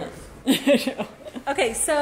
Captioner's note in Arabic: ضحكات خافتة من الكريستال